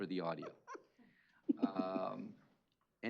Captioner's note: chuckling